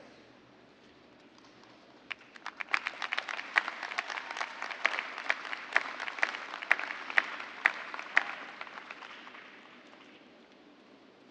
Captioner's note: cheers and applause